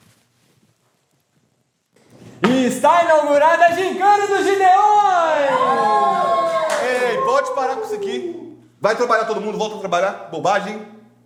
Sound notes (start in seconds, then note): 4.0 everyone cheers